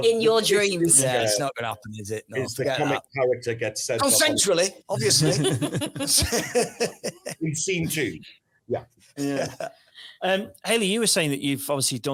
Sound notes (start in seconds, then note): 5.0 everybody laughs; 9.8 laughs